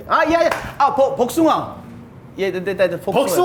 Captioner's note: speaking Korean